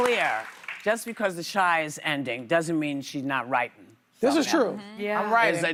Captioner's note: applause